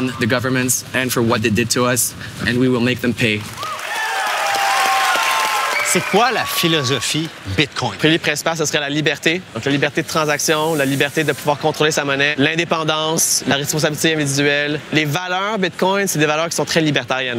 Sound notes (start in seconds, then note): 3.2 applause